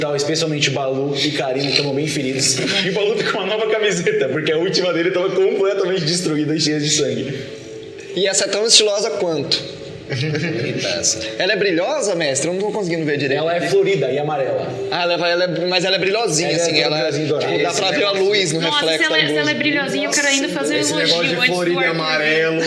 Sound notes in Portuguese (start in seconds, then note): 9.6 risada